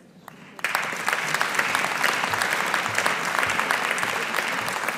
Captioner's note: audience applauding